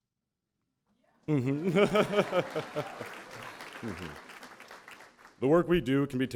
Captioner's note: laughter